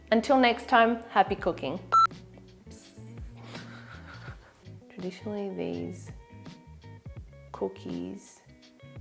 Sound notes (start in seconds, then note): 1.9 buzzer beeps; 3.4 laughs